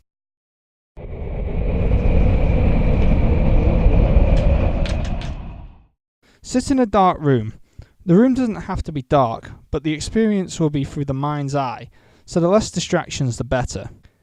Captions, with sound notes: [Wind howling] Sit in a dark room. The room doesn't have to be dark, but the experience will be through the mind's eye So the less distractions the better.